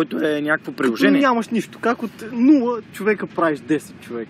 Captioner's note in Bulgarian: със сериозен глас